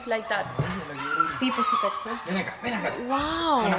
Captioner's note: speaking in a foreign language